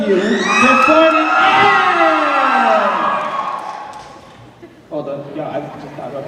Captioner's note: cheers